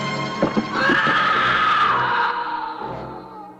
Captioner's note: scream